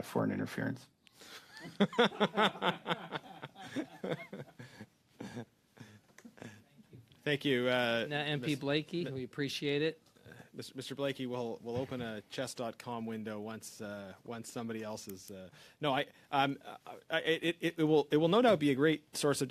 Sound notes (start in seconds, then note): 10.7 laughter